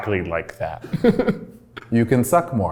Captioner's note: laughs